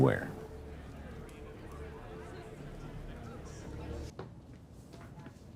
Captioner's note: guests chattering